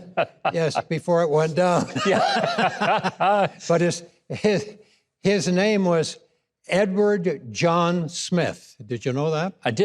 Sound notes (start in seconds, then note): 2.1 all laughing